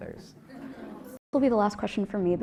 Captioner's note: laugh